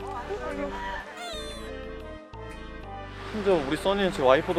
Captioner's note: wailing